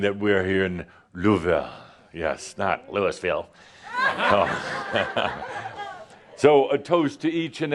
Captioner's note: laughter